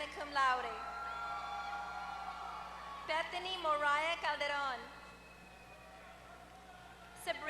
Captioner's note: applause